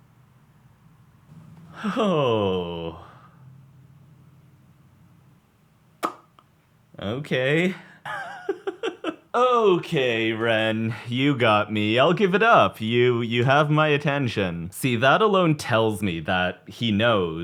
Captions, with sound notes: Okay. [laughs] Okay, Ren. You got me. I'll give it up. You, you have my attention. See, that alone tells me that he knows.